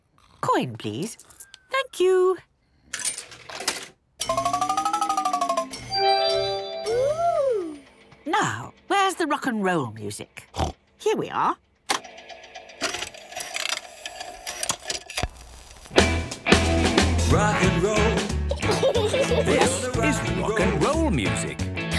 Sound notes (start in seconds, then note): 5.6 beeps and chimes; 12.5 clicks, whirring